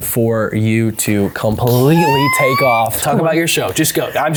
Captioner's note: squeals